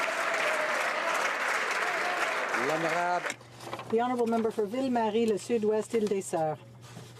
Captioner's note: some Applause